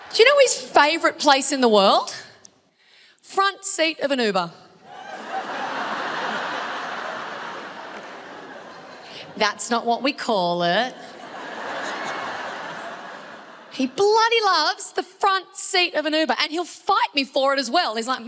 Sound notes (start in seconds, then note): 4.8 crowd laughs